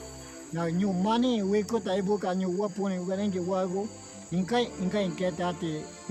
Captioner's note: speaking in a foreign language